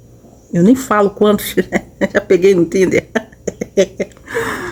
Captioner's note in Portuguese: risadas